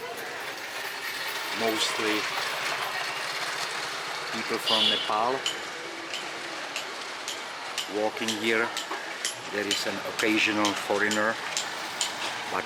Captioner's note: honking